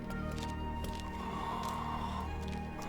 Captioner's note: heavy breathing